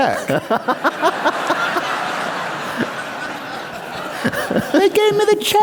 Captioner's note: laugher